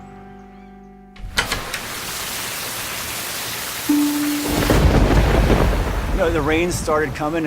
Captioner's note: rain and thunder